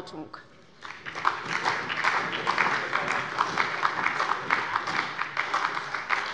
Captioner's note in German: Beifall bei der SPD